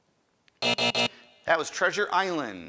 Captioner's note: end time buzzer rings